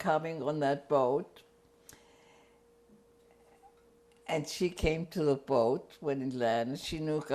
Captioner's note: pauses for 3 seconds